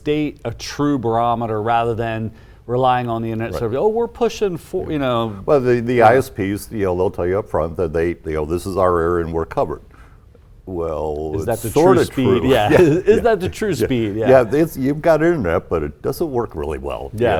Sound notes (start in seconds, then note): 11.4 chuckles